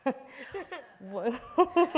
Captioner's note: laughs